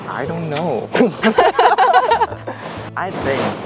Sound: laughing

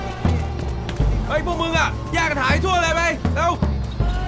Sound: Malay Language

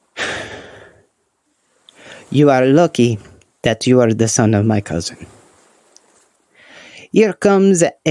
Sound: sigh

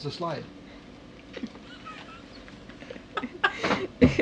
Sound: laughter

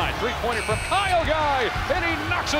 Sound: buzzer

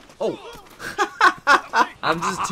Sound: laughter

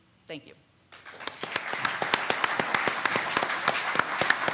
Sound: clapping

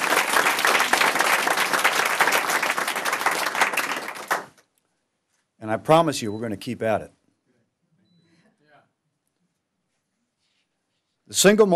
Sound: applause

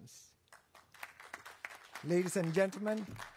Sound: applause

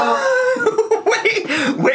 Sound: giggling

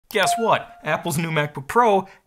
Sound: electronic note rings out

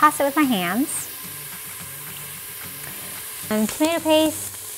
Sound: oil simmering in pot

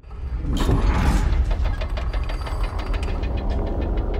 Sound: gears clicking

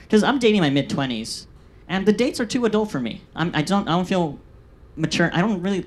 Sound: none

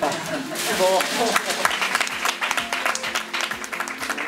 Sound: laughs; applause

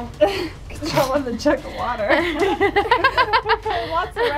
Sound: laughing

